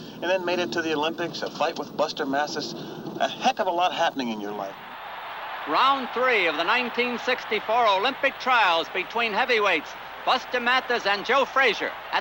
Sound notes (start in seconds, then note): 4.9 crowd cheering